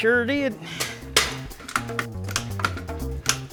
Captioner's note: metal clanks; bright upbeat music